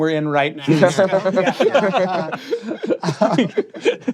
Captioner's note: laughter